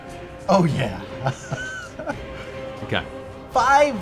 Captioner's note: laughs